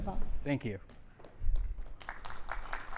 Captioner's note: applause